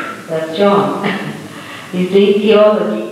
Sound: laughs

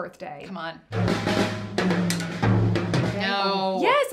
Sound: drum Sound Effect

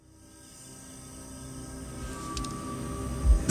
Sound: crickets chirping

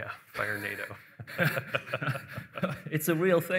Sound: laughter

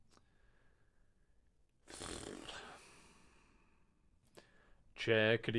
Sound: blows a raspberry

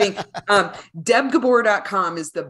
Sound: laughing

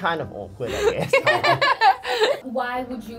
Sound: laughing

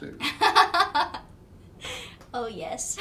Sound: laughing

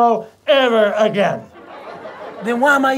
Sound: audience laughter

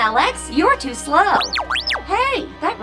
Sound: beeping

